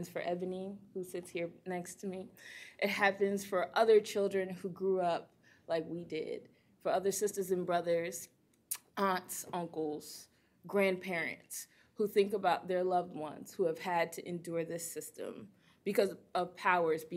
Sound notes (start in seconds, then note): none